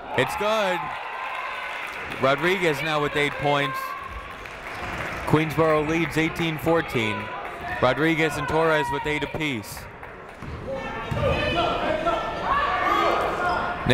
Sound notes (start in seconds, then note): 1.2 people cheering in the crowd; 10.7 people shouting in the crowd